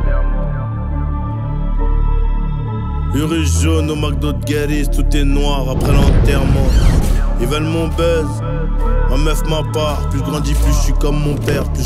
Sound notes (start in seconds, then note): 8.4 buzz